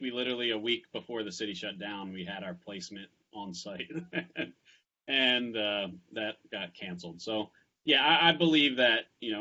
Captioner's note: laughs